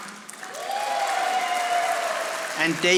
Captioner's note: audience applauding